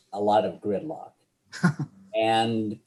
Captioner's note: laughs